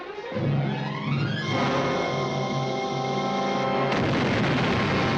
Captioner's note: dramatic music; fuse hissing; big explosion